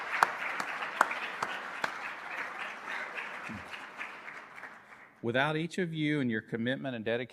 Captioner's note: applause